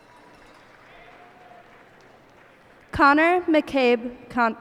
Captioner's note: cheers and applause